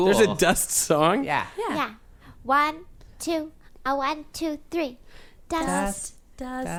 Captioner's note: they start chanting tentatively